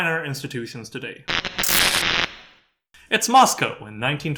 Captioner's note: static